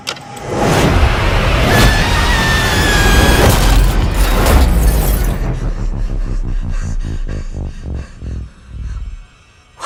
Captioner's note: screaming